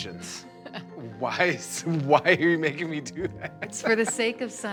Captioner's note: laughs; laughs